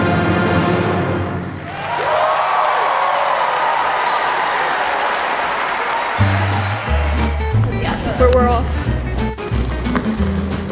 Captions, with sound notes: (audience applause) (upbeat music) - Well, we're off.